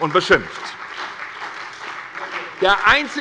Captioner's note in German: Beifall bei der SPD und der LINKEN